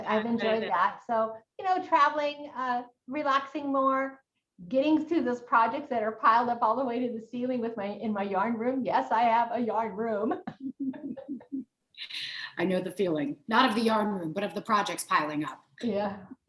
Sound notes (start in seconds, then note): 10.6 both laughing